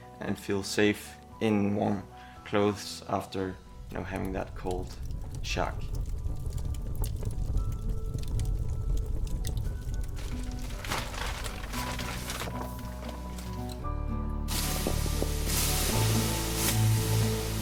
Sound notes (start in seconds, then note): 5.9 fire crackling; 7.8 gentle music